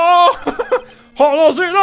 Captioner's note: laughter